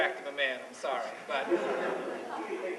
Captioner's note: laughter